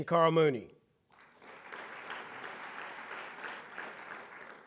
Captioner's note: audience clapping